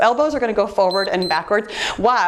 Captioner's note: timer beeps